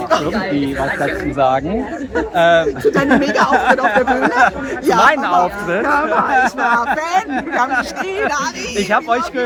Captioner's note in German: gelächter; gelächter